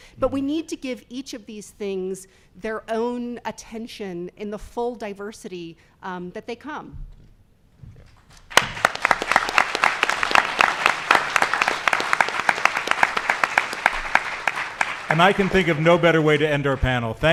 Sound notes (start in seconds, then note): 8.4 audience applauding